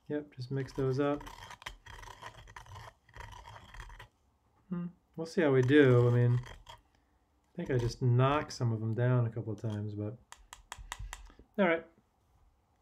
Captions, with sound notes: Yep, just mix those up. (spoon scraping) Hmm, we'll see how we do. I mean, I think I just knocked some of them down a couple times, but, all right.